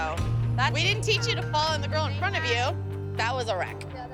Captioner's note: none